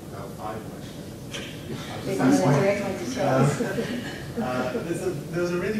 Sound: laughs

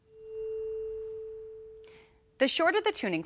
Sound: tuning fork resonating

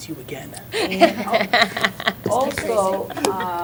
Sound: laughter

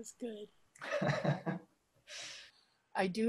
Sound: laughs

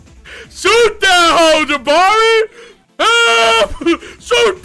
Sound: yells

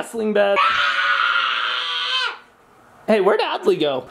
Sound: screams

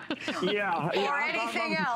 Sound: laughter

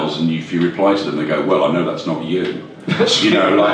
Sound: laughs

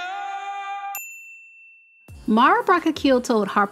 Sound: bell dings

